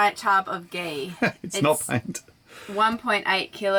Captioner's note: laughs